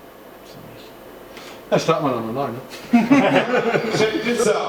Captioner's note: laughing